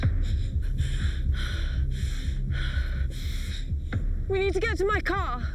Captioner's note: Lauren panting